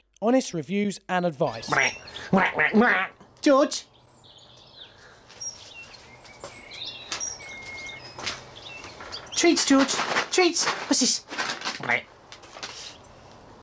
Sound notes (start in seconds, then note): 1.6 quacks; 6.0 birds tweeting; 11.8 quacks